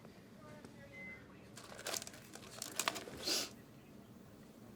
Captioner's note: Wendy sniffles; wrapping crumples